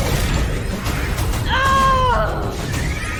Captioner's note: gun Fire; furious Cry